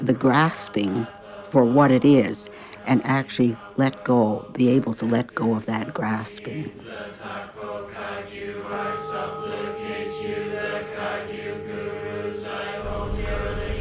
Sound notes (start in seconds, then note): 6.7 gong sounding